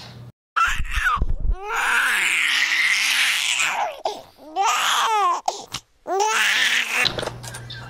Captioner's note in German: Baby weint